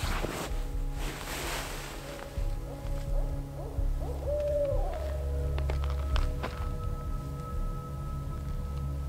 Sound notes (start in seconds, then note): 3.2 owl hooting